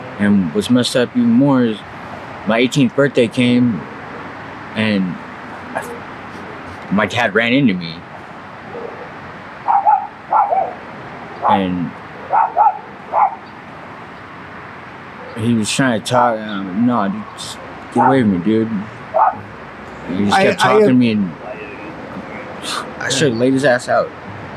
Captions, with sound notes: And what's messed up even more is my 18th birthday came and my dad ran into me. (dog barks) And he was trying to talk and I'm like, "No, just get away from me, dude." And he just kept talking to me and I should've laid his ass out.